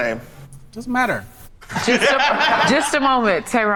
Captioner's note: group laughs